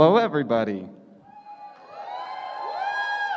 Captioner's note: cheering